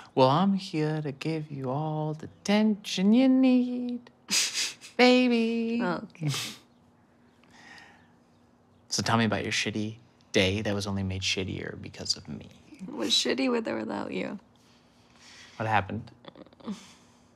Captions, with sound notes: Well, I'm here to give you all the tension you need! (Sam chuckles) Baby! - Okay. (Tyler chuckles) - So, tell me about your shitty day that was only made shittier because of me. - It was shitty, with or without you. - What happened?